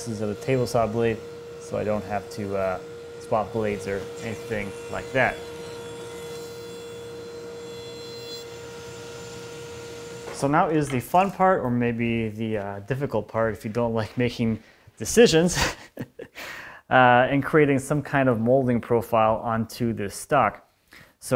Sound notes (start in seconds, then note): 6.1 table saw buzzing; 15.4 laughs